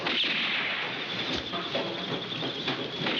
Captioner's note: gunshots